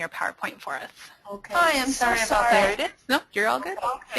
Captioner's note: voiceover